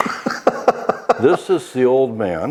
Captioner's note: laughs